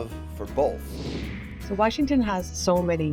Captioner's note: screen whooshing